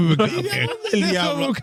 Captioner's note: laughing